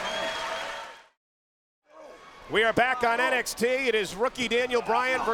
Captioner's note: crowd chatter